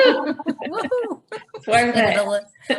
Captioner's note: all laughing